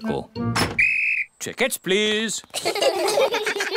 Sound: blows whistle; all laugh

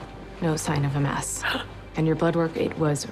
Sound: gasps

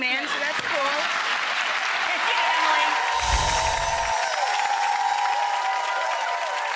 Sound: applause

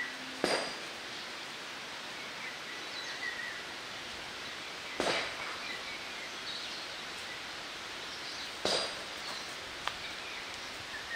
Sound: nature sound

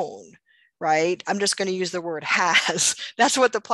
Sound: laughs

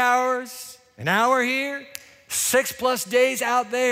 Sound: snaps fingers

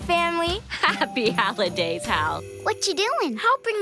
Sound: giggles

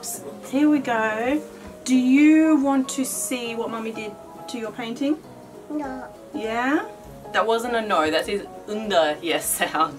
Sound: toddler sound

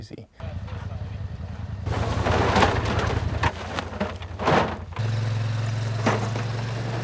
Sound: hum of motor

